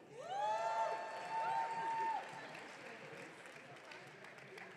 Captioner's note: audience cheering